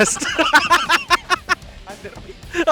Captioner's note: boys laughing